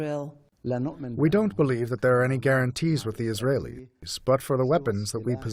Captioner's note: through translator